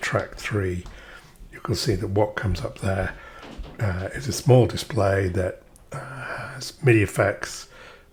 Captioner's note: sighs and gasps